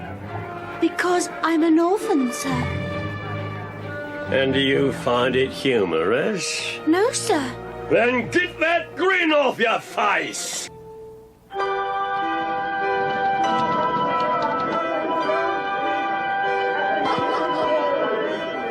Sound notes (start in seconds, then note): 11.5 bright orchestral music; 11.5 townspeople chattering